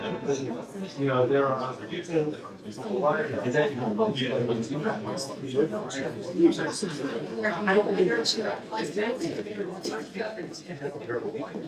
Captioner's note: audience chatter